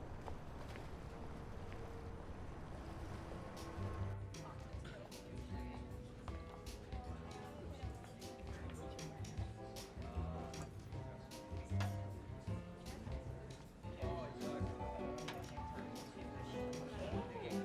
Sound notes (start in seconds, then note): 3.9 background chatter; 3.9 smooth jazz music